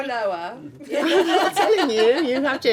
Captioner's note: laughing